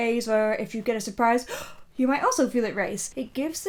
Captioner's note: gasps